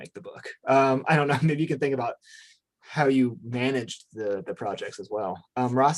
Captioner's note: chuckles